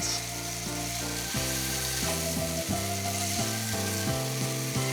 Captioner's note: food sizzles in pad; gentle music